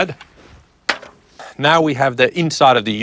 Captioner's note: metal clinking